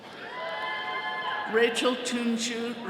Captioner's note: attendees cheering